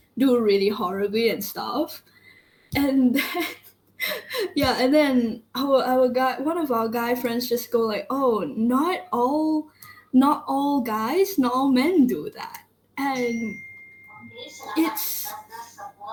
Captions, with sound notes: do really horribly and stuff and - [laughs] Yeah and then, one of our guy friend just go like "oh, not all - not all guys, not all men do that". And it's -